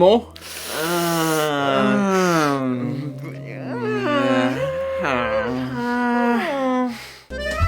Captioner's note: noncommittal noises